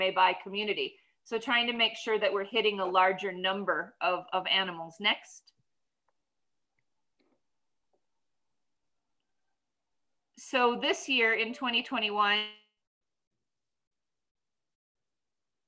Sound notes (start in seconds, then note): 5.6 silent